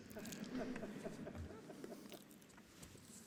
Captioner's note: laughter